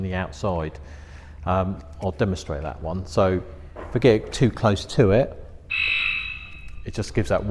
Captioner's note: beep